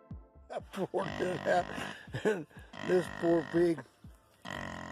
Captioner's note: human laughing